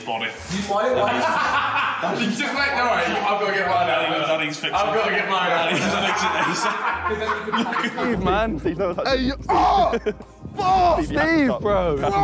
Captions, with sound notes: (laughing) - No, wait, I've got to get mine out. I've got to get mine out. - Steve, man. (yells) Steve, bro. - Bro!